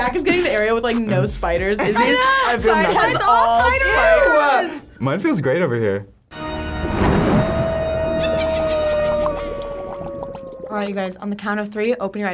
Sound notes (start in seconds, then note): 6.3 haunting organ music; 6.6 thunder crashes; 8.2 evil laughter; 9.5 cauldron bubbles